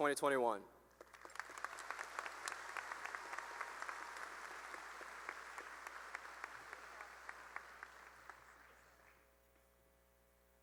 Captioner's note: applause